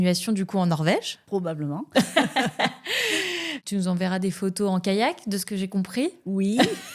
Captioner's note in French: rires; rires